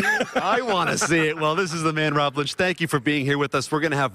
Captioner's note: laughter